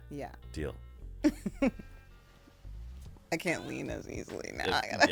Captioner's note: laughing